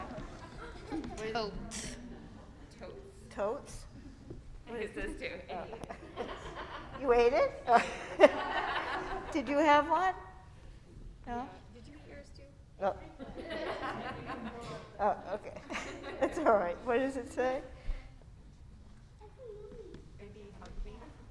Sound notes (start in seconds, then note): 7.6 laughter; 15.9 laughs